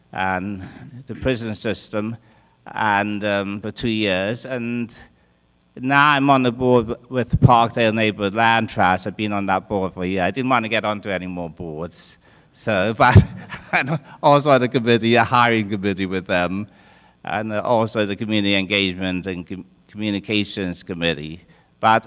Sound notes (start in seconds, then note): 13.1 laughs